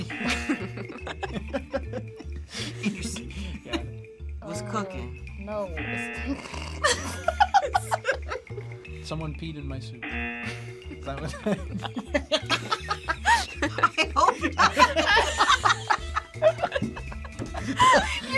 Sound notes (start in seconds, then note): 0.0 buzzer; 0.0 both laugh; 5.8 buzzer; 6.8 both laugh; 10.0 buzzer; 12.7 both laugh; 16.1 both laugh